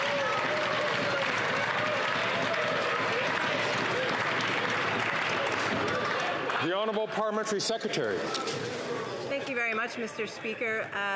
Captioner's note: some Applause